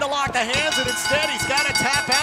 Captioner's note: bell ringing